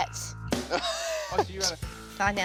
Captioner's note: laughs